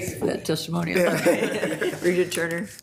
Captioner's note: attendees laughing